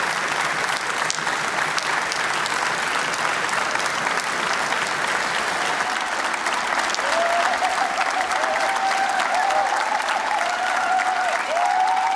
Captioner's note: applause